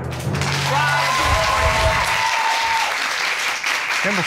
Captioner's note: audience cheering